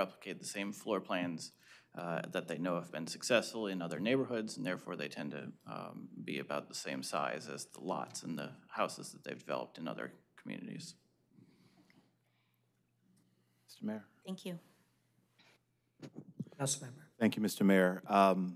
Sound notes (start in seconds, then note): none